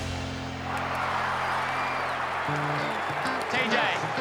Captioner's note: crowd cheers